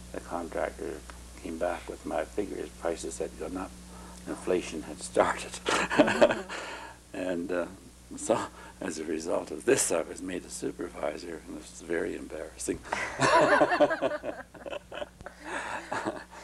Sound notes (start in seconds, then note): 5.4 laughter